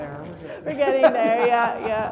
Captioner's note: laughs